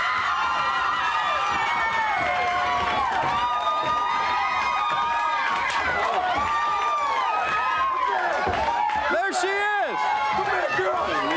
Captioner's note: crowd cheering